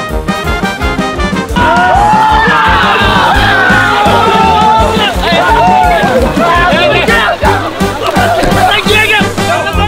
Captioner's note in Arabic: صراخ